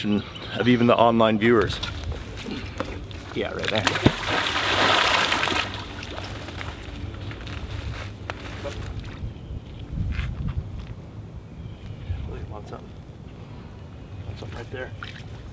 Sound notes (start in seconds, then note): 3.7 water splashing; 12.9 murmuring